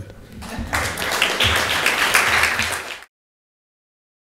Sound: audience applauds

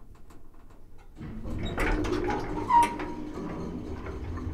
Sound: metal creaks

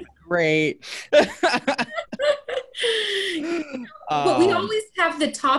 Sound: guy laughing

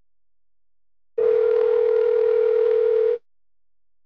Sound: phone rings

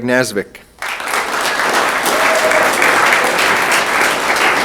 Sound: room applauds

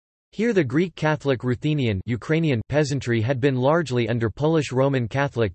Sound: Ukrainian

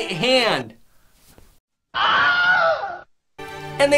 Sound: Crazy Nate lost his hand, then screams

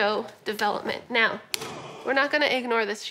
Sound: grunt

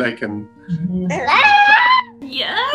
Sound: baby cries

